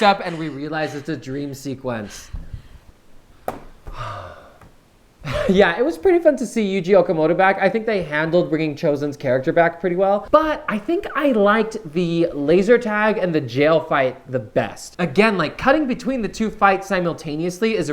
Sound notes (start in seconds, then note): 3.8 sighs; 5.2 laughs